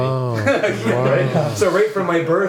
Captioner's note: men laugh